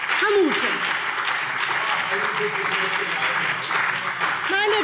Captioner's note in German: Beifall BÜNDNIS 90/DIE GRÜNEN und vereinzelt CDU